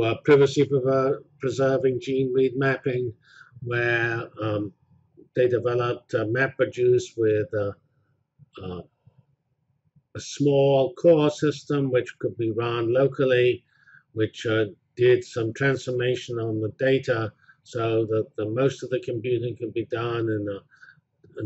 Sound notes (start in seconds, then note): 8.6 pause